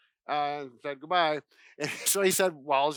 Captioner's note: chuckle